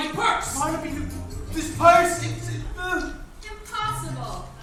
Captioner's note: stammers